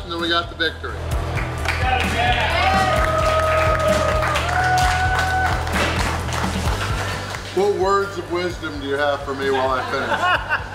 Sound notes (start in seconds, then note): 1.4 crowd cheers